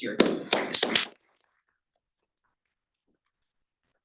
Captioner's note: audience applauding